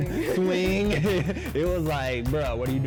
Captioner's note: laughs